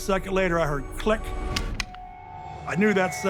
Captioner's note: click